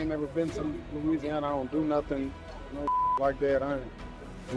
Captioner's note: beep